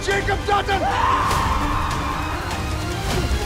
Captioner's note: Cara screaming